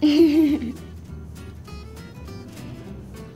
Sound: laughing

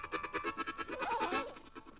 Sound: goat bleats

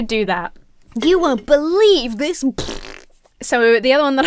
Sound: blows raspberry

